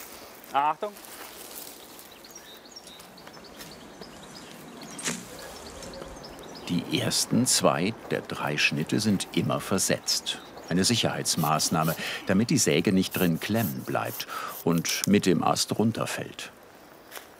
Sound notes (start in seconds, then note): 4.9 impact